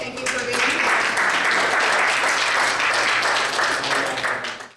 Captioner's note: audience applauding